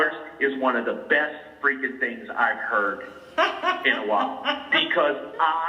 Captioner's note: laughter